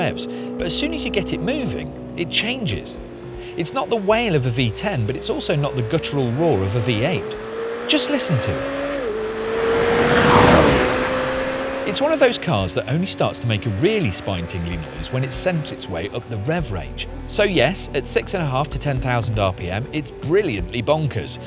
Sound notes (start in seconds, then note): 8.7 engine roars